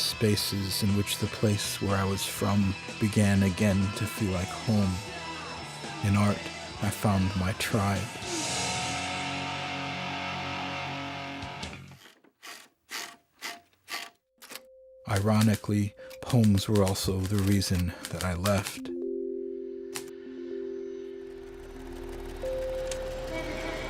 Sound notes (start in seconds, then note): 13.8 typewriter knob cranking